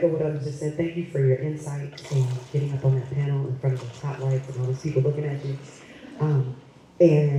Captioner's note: none